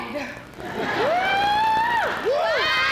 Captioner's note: cheering